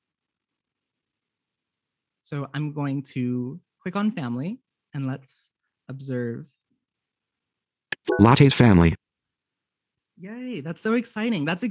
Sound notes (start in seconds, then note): 8.2 computer Generated Voice